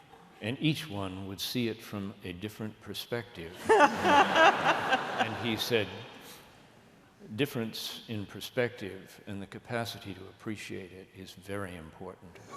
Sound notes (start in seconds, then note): 3.6 laughter